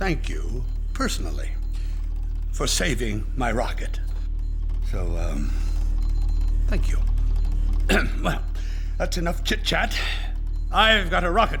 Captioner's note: ahem